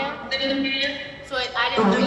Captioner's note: voices echoes